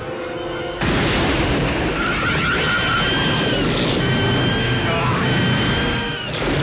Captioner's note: Graboid shrieks